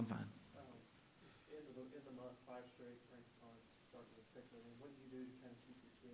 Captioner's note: voiceover